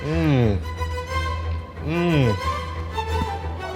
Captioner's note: moaning; suspenseful music